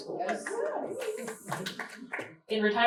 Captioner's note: cheers and applause